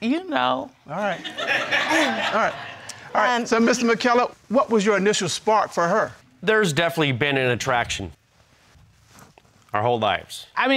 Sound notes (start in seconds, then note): 1.1 crowd laughing